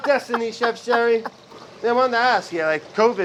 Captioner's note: laughs